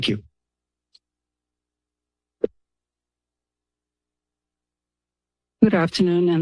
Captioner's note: silence